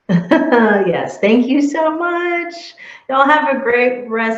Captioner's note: laughing